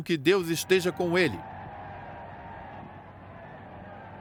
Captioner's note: crowd cheering